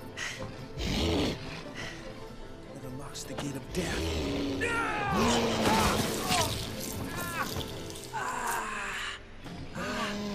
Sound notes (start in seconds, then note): 0.8 sphinx snarling; 4.6 Robert yelling; 7.2 Robert groaning